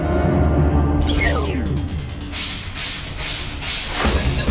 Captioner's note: whooshing